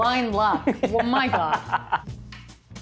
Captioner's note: laughs